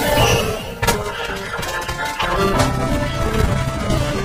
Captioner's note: monkeys hooting, shrieking